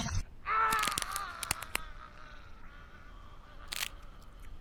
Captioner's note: creature roaring; Daniel screams